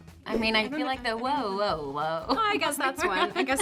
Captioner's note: Brianne laughs